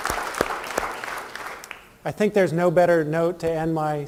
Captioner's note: applause